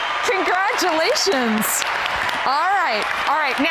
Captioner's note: huge applause